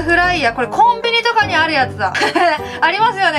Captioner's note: laugh; laughs